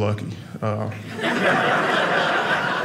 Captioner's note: audience laughing